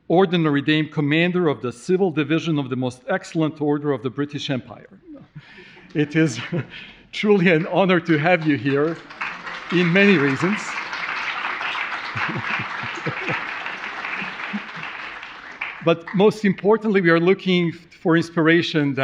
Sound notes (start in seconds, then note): 10.4 audience clapping; 10.4 laughs